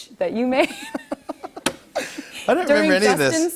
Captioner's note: both laugh